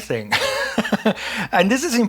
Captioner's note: laughs